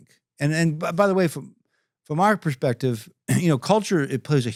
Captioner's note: clears throat